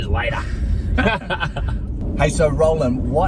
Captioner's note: men chuckling